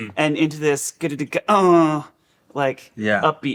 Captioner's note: vocalizing bass beats